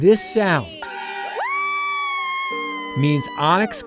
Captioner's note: group cheering